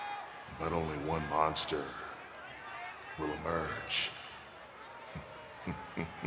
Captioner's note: laughing